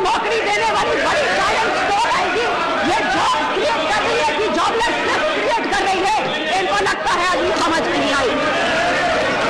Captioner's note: Hindi